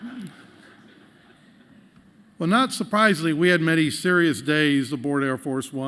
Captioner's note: laughter